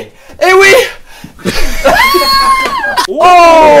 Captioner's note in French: Rires